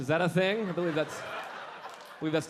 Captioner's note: audience laughing